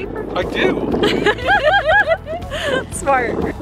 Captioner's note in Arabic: الكل يضحك